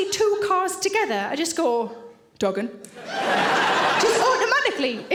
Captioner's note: audience laughing